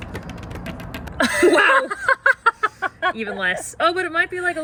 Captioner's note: laughter